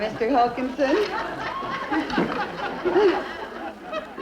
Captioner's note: crowd laughter